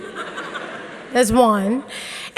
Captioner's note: audience laughing